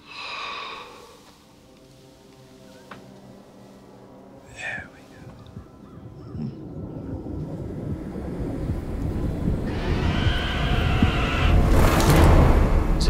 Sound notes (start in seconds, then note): 1.8 tense music; 6.1 heart beats; 9.4 demonic howl